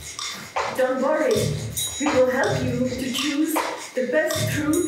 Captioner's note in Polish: Po angielsku